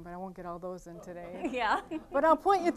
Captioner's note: all laughing